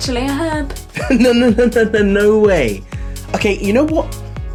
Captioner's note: laughing